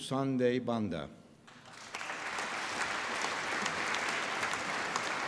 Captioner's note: applause